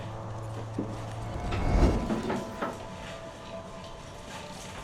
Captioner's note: backpack rustling; more distant shuffling